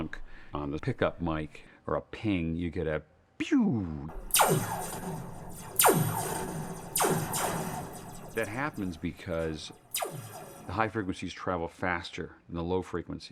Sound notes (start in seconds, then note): 4.1 sound of laser gun firing